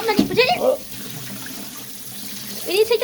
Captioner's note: dad dumping water